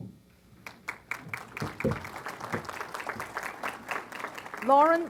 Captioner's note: applause